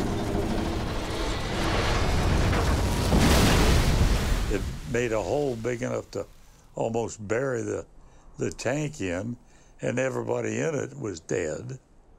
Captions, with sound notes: (tank thudding in gravel) It made a hole big enough to almost bury the tank in and everybody in it was dead.